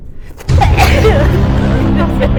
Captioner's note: sneezes